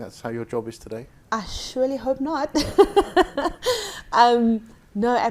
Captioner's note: laughing